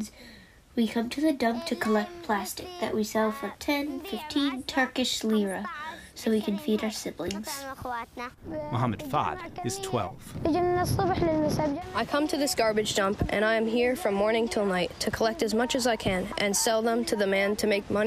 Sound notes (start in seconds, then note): 11.1 through translator